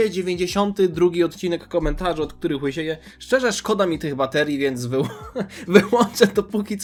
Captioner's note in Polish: śmiech